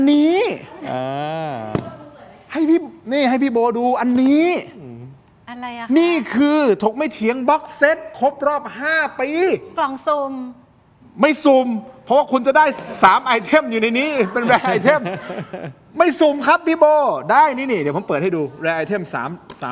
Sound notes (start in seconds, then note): 14.0 laughs